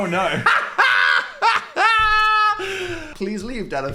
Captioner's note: Dan laughs